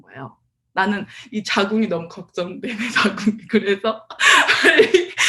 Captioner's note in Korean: 웃음